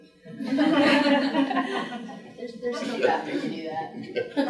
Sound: group laughing

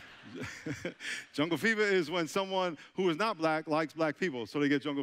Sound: chuckling; audience laughing

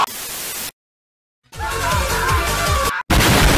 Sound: screams

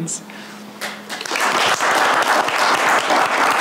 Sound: applauds

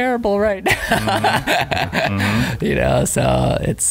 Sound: laughing

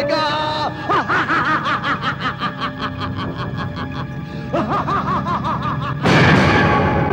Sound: laughs

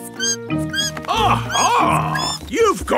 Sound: bat squeaking

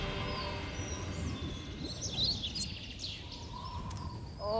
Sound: birds chirping

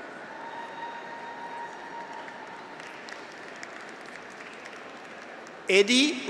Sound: graduates cheer; audience applauds

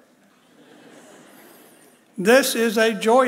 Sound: audience laughs

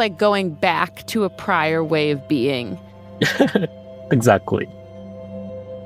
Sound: laughs

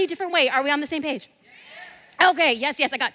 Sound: crowd

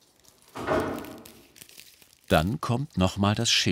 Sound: crackling

